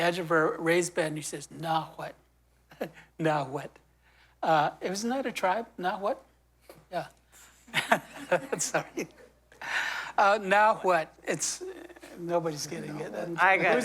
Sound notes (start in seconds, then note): 7.7 laughter